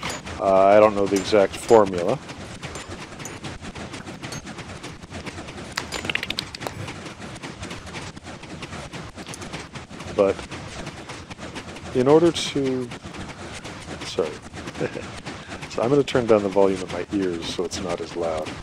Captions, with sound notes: Uh, I don't know the exact formula. [pistons continue , blaze clinks, arrow whooshes] [chirps and pops] But... in order to Sorry. [chuckle] So, I'm going to turn down the volume in my ears so it's not as loud.